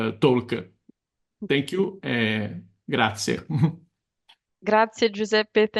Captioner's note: chuckles